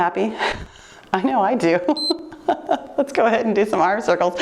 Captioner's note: timer beeps; laughs